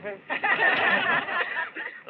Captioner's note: laughter